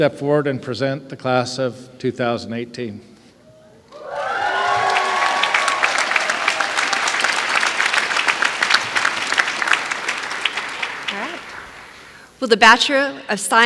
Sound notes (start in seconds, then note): 4.0 applause